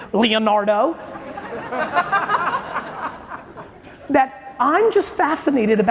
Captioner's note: audience laughing